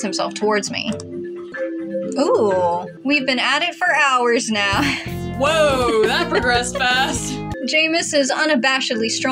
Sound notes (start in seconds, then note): 5.8 giggle